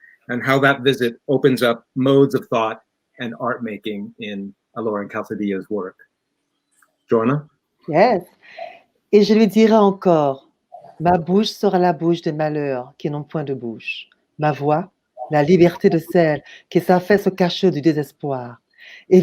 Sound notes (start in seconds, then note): 12.2 reads text in french